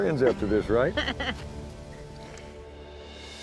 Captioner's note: laughs